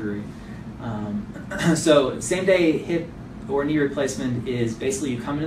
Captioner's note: clears throat